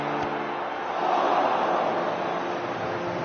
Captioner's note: crowd groaning